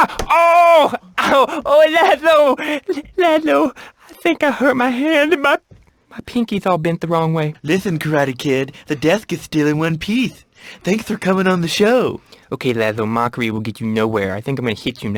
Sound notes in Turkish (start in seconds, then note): 2.4 peltekçe konuşur; 7.2 peltek konuşmasını taklit ederek; 12.3 peltekçe konuşur